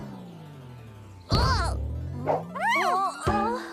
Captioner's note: thump